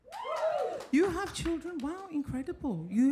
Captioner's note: audience applauding